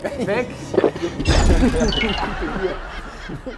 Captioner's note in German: Gespanntes Flirren, Lachen